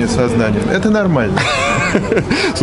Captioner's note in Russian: смех за кадром